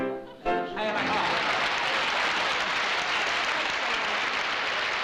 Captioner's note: applause